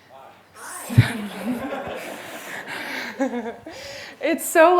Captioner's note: laughter